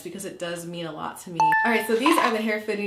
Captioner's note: beeping